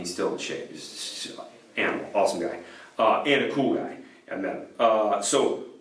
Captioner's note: stammering